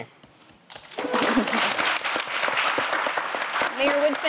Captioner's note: all applauding